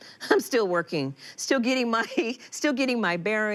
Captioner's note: Malia laughs